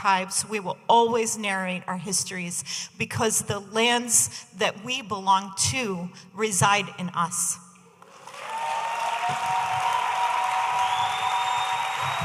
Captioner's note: audience applauding